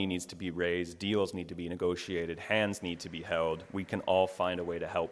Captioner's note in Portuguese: Aplausos